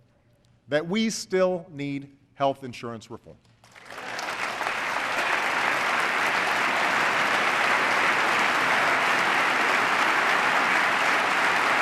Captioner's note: applause